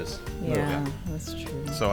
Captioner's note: quietly